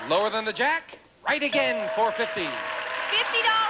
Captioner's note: audience applauding